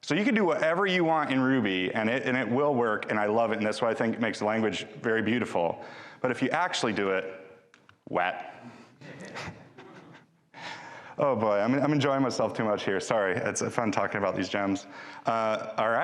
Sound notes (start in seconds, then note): 9.0 chuckles; 9.0 man in audience laughs